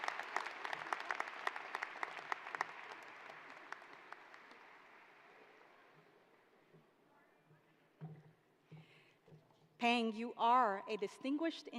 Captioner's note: applause